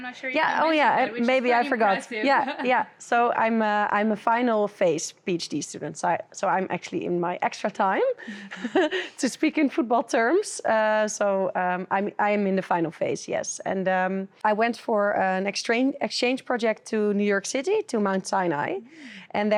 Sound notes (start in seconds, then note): 8.2 laughing